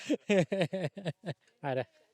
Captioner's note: laughs